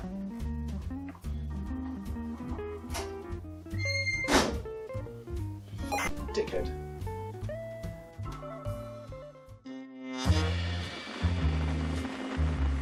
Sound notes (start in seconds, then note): 4.2 door slams; 9.8 jazz music